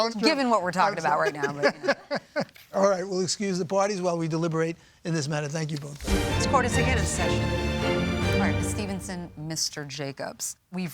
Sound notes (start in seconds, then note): 0.8 judges laughing; 7.9 intense music